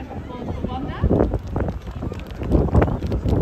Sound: crowd Applause

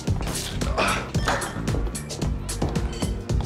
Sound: gasps

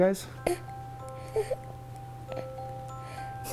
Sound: coos

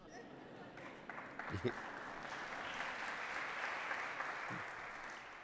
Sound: applause

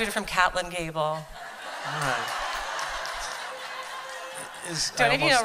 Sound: laughter

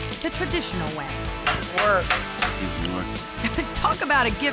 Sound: hammering

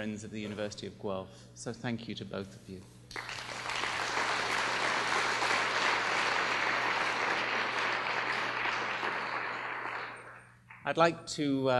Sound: applause

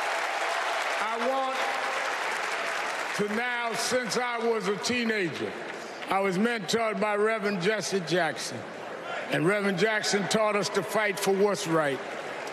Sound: cheers and applause

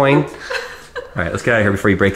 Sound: laughing

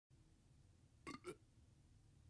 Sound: burp

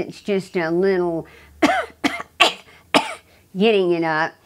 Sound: coughing

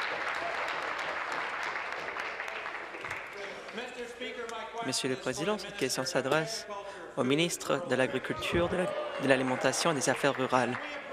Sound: applause

